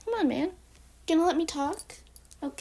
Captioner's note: Scarlett collar jingle